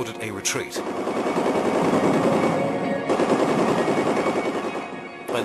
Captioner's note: guns blasting